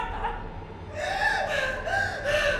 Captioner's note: sobs; panting